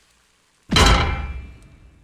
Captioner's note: clink